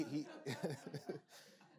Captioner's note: laughter